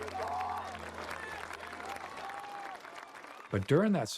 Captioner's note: applause